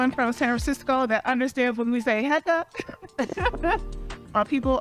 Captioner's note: laughs